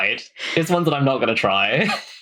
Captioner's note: laughing